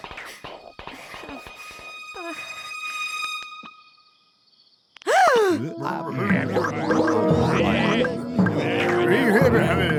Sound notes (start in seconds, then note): 5.0 Moses' mother gasps; 7.2 overlapping chatter